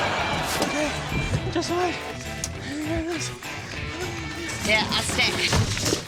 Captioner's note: mumbles softly